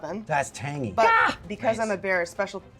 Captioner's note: high pitched scream